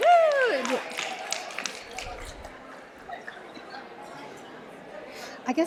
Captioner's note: applause